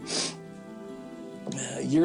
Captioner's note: sniffles